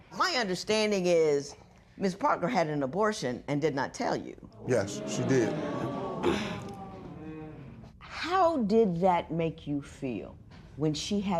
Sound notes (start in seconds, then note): 4.6 spectators murmur